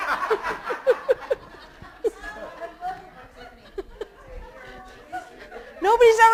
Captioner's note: laughter